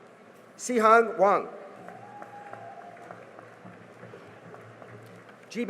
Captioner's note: cheering and applause